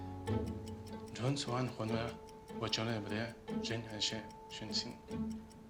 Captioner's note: talking in chinese